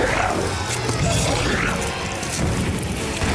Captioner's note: chesty roar